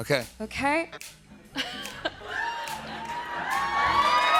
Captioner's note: cheers and applause